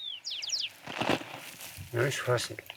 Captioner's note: birds chirping; villager speaking in foreign language